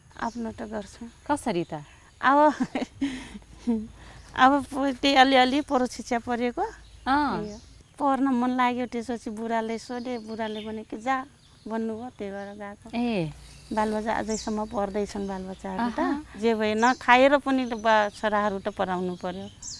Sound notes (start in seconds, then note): 2.4 laughs